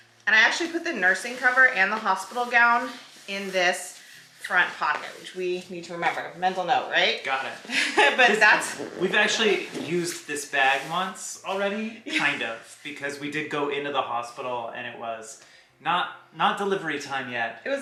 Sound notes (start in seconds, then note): 7.7 laughs